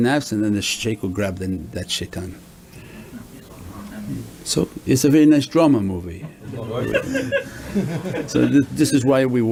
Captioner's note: everyone laughs